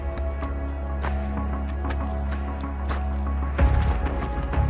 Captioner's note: pebbles crunching; edgy music